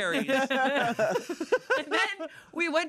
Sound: everyone laughs

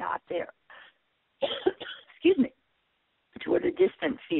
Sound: coughs

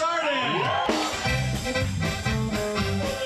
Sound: patrons cheering

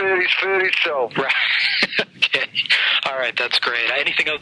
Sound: laughing

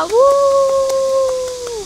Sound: clap!

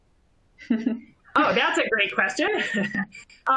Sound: laughter

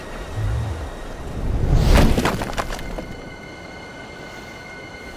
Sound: rocks falling

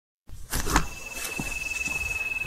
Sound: footsteps

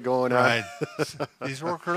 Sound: laughs

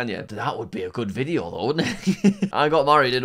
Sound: laughs

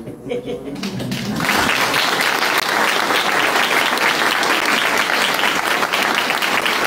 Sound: applause

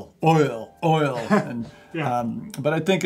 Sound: laughs

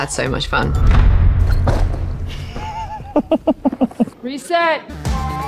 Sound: booming effect; Noah laughs

